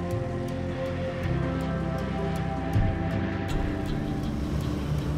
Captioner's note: plane soaring